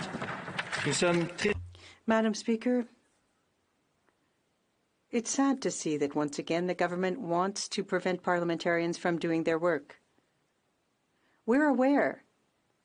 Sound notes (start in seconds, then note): 3.6 speaking in French